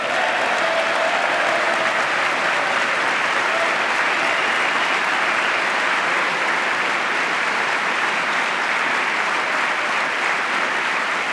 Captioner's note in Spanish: aplauso